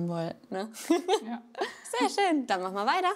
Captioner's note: laughter